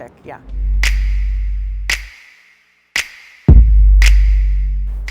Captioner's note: finger snaps throughout